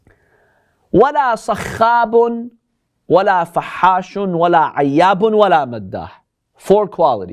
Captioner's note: Arabic